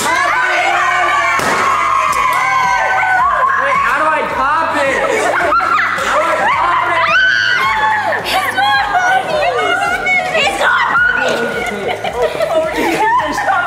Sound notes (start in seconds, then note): 1.3 confetti popping; 7.4 kids screaming